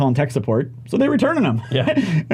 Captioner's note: laughs